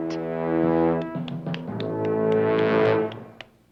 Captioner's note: clapping